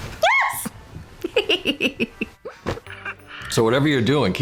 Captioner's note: giggling